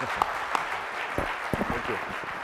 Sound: applause

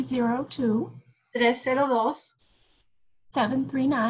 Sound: speaking spanish

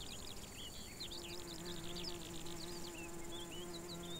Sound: bee buzzes

